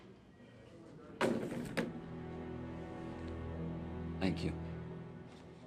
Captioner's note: phone clatters